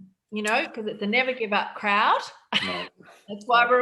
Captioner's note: chuckling